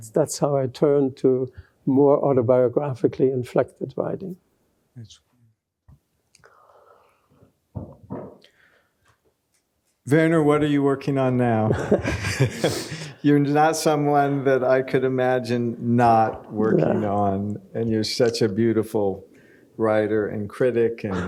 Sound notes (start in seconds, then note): 11.8 laughs